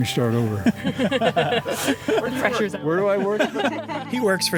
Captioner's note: laughing